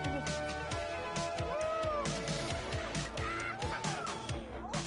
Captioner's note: crowd cheering